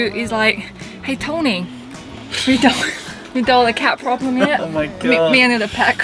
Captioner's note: new York Accent